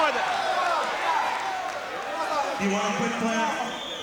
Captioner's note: crowd cheering